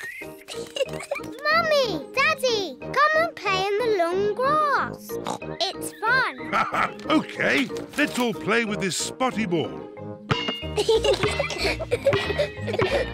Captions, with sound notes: (GIGGLING) Mummy! Daddy! Come and play in the long grass! -(SNORTS) It's fun! -(LAUGHS) Okay. Let's all play with this spotty ball. (GIGGLING)